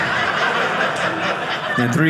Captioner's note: audience laughing